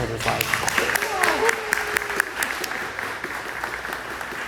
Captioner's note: applause